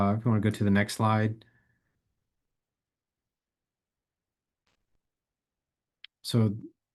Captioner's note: silence